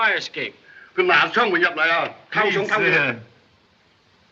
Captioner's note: arguing in Chinese